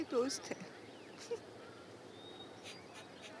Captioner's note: Sobbing